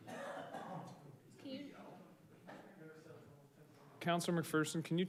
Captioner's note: staff members murmur